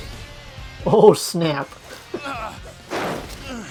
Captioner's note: soft chuckles